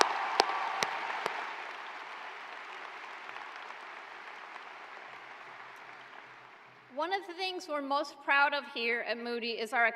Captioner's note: cheers and applause